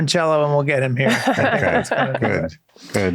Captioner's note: all laughing